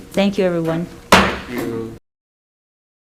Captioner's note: loud bang